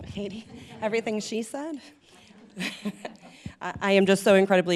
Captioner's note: chuckles